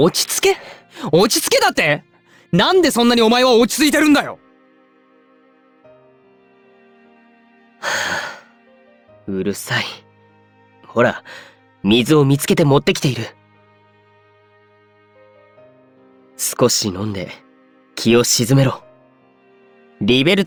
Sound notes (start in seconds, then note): 7.8 sigh